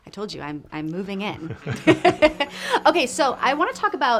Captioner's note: laughs